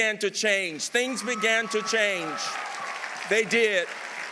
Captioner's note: audience applauding